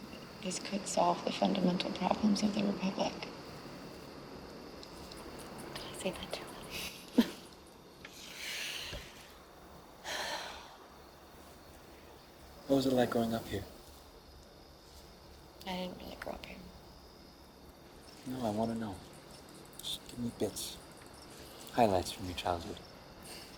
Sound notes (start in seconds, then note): 5.7 whispering; 6.7 laughs; 10.0 sighs